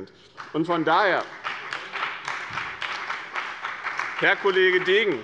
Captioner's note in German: Beifall bei dem BÜNDNIS 90/DIE GRÜNEN und der CDU